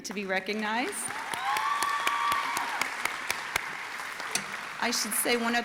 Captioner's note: audience applauding and cheering